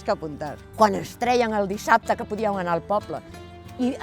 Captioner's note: in catalan